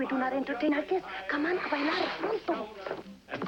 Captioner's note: speaking Spanish